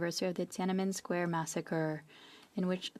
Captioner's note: speaking French